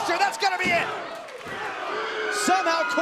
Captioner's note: crowd cheering